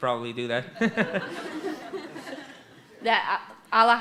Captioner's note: laughter